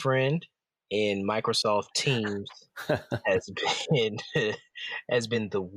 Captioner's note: chuckles